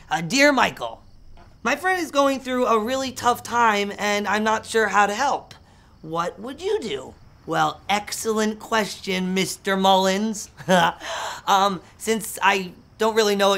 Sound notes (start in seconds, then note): 10.5 laughs